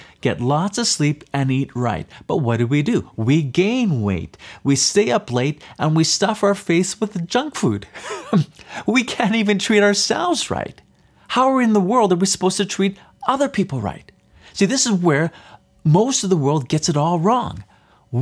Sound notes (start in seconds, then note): 8.0 laughs